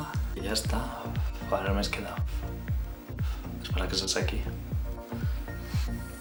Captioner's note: blows